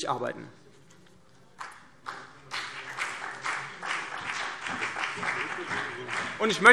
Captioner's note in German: Beifall CDU und BÜNDNIS 90/DIE GRÜNEN